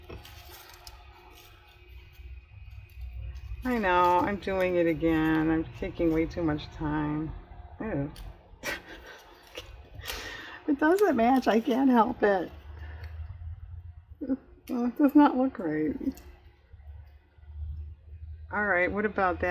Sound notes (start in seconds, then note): 8.6 laughs